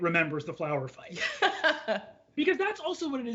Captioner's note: laughs